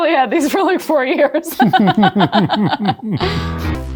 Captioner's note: laughing; upbeat music